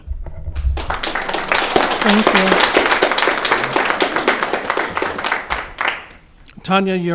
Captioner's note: audience clapping